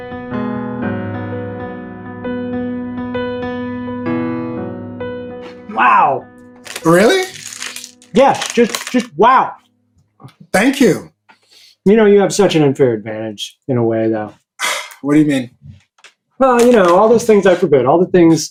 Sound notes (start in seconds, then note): 3.9 music fades; 6.5 bag crinkling; 14.6 scoffs